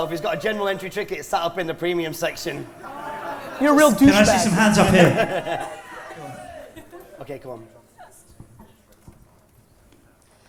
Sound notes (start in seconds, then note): 3.9 laughter